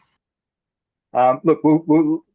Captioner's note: laughs